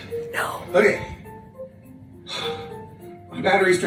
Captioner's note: PC sighs